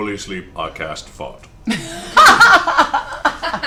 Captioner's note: laughter